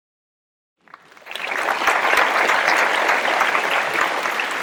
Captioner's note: applause